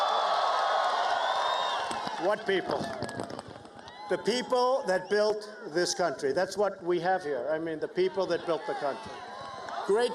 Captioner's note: cheers and applause